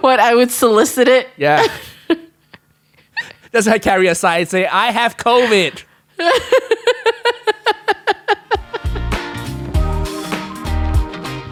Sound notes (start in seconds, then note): 6.1 laughs; 8.6 upbeat music